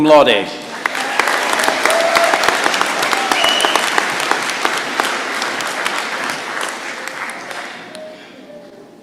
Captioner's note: applause